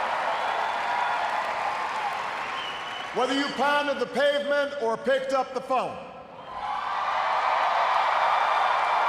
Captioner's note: cheers, applause